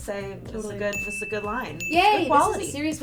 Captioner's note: bell dings twice